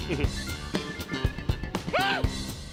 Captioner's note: chuckles